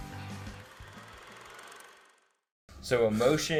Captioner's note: projector whirling